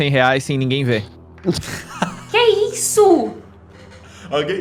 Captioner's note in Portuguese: risadas